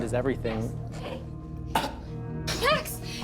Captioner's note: coughing